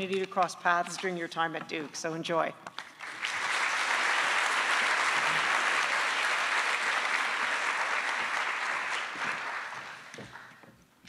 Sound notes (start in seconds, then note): 2.8 attendees applauding